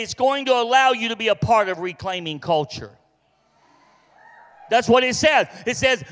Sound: congregation cheers

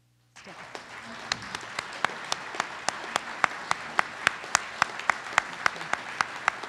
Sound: audience applauds

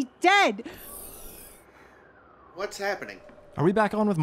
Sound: door opening

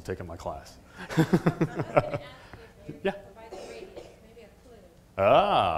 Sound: laugh

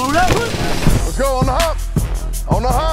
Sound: grunting

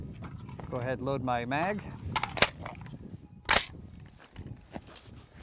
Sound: gun clacking

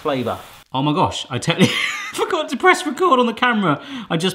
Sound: laughs

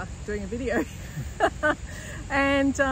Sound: both laugh

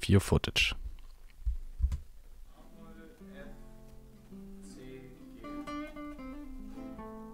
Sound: verbal communication of chord progression in German

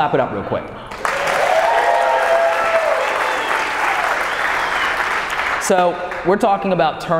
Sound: audience applauding and cheering

